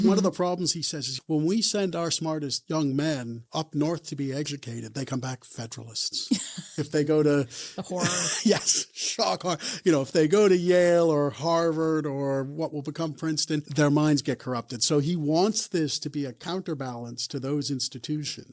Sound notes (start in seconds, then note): 6.7 laughs